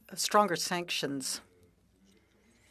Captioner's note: speaking French